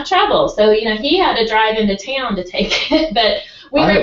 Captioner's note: laugh